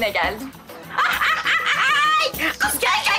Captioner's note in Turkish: Sevda gülme sesi